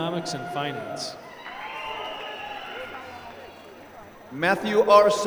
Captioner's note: applause